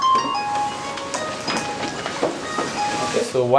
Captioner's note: phone ringtone